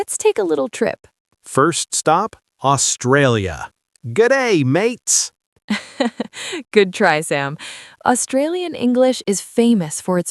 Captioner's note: laughs